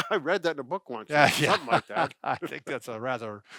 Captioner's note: laughs